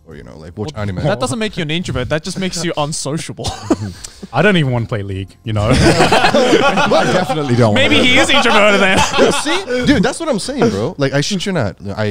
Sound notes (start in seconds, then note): 5.6 all laughing